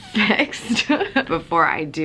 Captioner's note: laughs